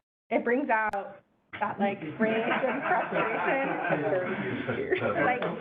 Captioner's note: laughter